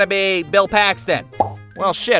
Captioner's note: pop